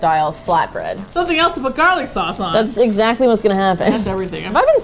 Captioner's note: laughs